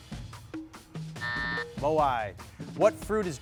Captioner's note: buzzer sounding